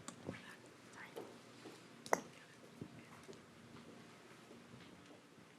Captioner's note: shuffling and whispering